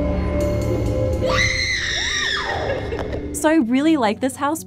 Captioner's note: screaming